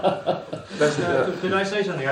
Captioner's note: laughs